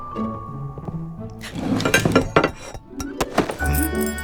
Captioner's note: sounds of plates